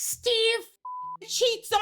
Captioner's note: beep